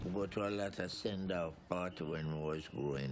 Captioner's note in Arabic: none